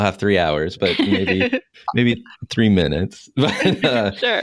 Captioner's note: laughter; laughs